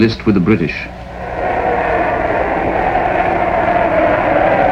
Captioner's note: crowd shouting